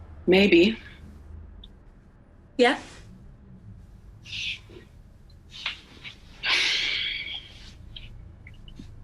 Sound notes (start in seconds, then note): 6.4 dice sighs